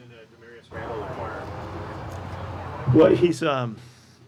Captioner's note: high fan on